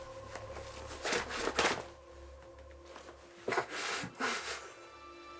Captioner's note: Jordyn kicking